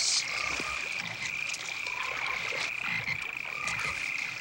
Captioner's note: frogs croaking